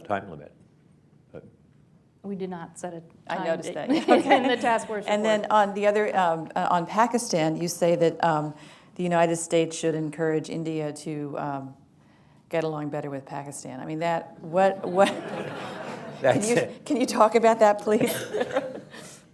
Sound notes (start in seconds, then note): 3.9 laughs; 14.8 laughter; 14.9 chuckles; 18.0 laughs